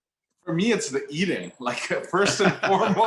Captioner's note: laughs